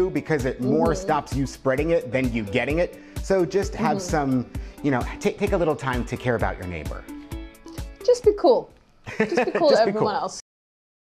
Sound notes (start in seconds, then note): 9.1 laughs